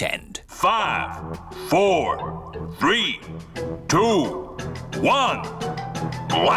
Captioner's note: on speakers